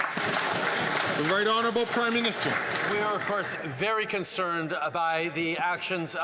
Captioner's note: some Applause